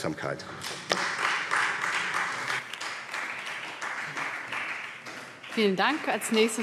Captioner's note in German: Beifall BÜNDNIS 90/DIE GRÜNEN